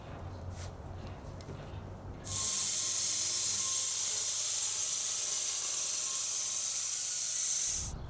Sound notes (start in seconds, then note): 2.2 saw whirring